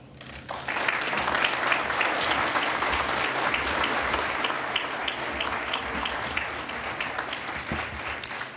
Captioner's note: applause